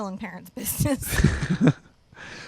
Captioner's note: both laugh